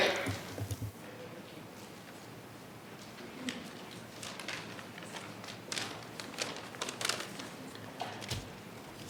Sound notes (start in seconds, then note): 3.9 speaking faintly